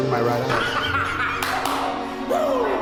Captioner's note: laughs